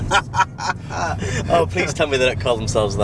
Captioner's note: laughs